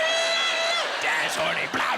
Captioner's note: in gruff voice